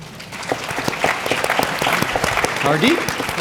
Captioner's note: audience clapping